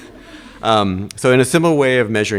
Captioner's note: audience laughing